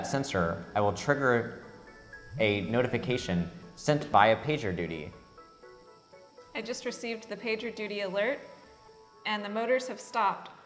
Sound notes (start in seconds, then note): 4.3 phone vibrates